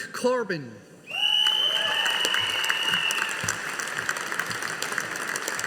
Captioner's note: audience applauding